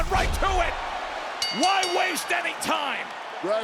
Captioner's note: bell rings